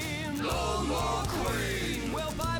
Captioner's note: crowd